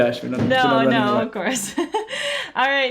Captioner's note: laughs